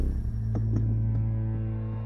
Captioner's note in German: Wummern